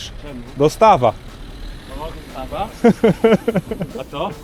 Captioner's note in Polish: Śmiech